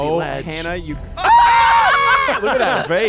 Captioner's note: everyone laughs